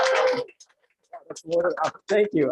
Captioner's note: applause